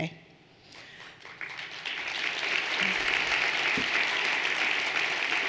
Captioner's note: everyone applauding